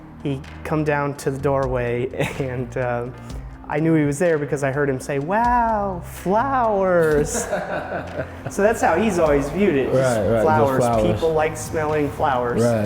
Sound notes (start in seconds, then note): 7.0 laughter